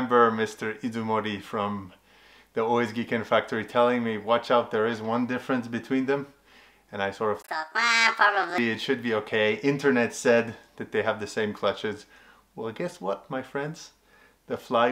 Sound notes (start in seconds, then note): 7.3 swearing